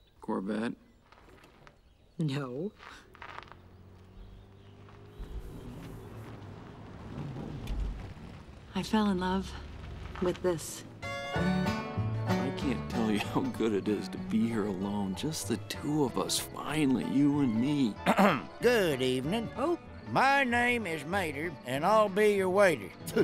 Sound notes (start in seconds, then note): 11.2 upbeat music; 18.0 clears throat